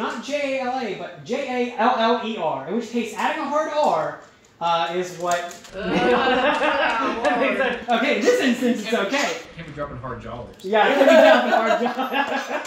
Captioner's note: laughter